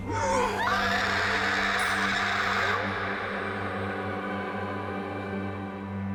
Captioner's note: pale woman roars; Rachel shrieks; somber music